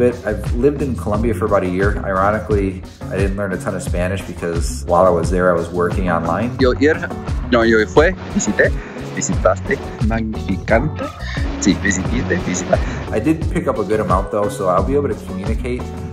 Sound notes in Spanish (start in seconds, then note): 6.5 speaking bad spanish